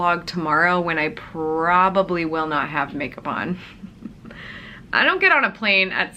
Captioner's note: chuckles